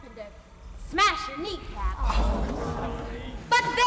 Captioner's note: company groans